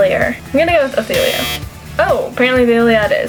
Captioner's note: buzzer